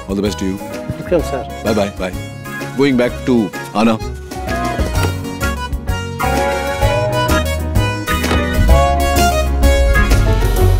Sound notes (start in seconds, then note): 4.6 car door opens; 8.1 car door closes